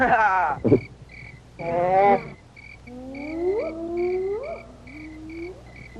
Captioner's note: hyenas howling